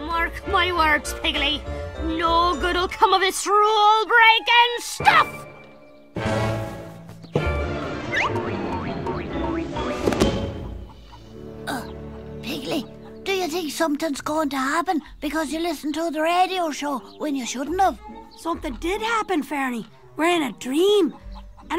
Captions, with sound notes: Mark my words Piggley, no good will come of this rule breaking stuff! (springy footsteps) (book closes) - Uh, Piggley, do you think something's going to happen because you listened to the radio show when you shouldn't of? - Something did happen, Ferny! We're in a dream!